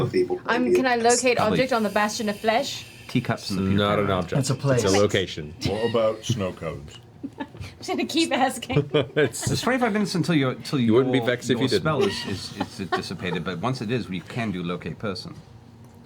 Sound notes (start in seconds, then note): 11.4 laughs